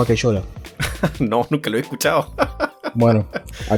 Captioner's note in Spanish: risas